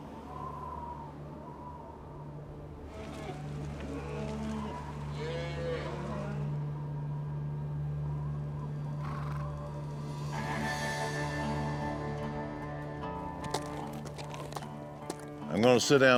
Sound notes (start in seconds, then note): 0.2 wind howling; 2.9 cattle mooing